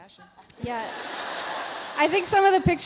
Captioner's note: audience laughs